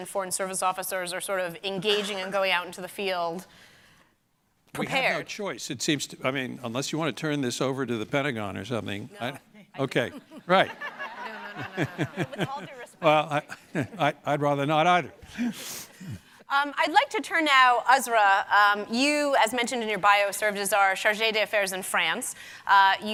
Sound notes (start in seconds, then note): 9.8 laughs; 11.5 audience laughing